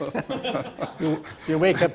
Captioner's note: panel laughs; laughs